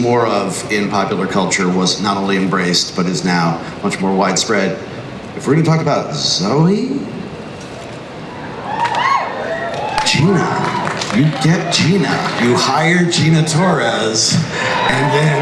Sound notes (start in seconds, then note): 9.0 crowd cheers